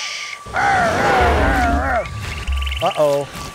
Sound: dinosaur roaring

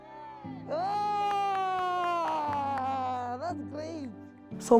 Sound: she applauds

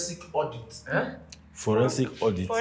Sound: Sulaiman exclaims

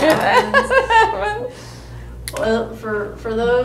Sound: laughter

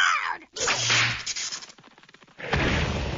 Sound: electric whip cracks

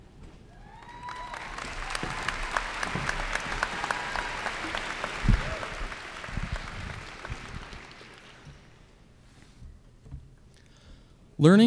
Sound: applause and cheers

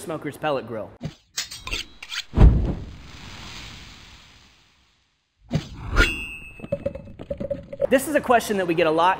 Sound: knife sharpens, grill sizzles, knife slices

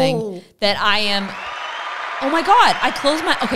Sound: audience cheering

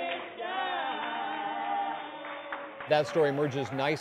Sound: applause

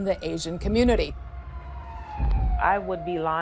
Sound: sirens wailing

